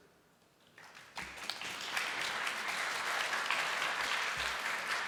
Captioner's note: applause